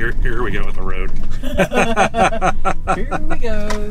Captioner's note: laughter